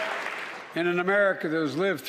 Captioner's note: applause